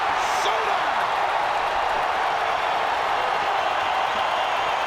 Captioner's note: crowd cheers